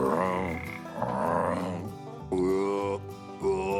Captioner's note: croaking